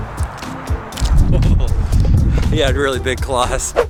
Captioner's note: laughs